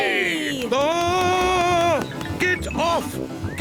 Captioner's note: screams